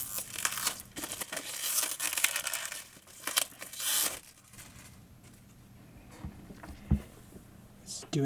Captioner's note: plastic crinkling